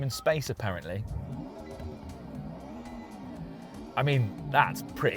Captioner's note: soft revving